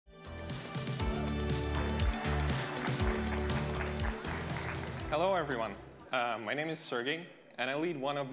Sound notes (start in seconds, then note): 0.1 upbeat music; 1.2 audience applauding